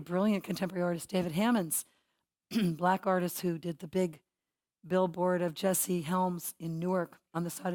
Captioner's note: cough